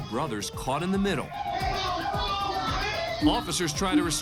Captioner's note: yelling